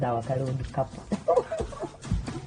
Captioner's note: giggles